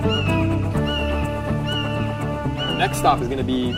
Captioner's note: red-shouldered hawk calling